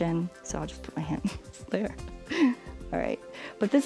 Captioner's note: laughing